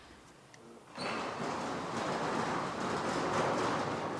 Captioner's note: clattering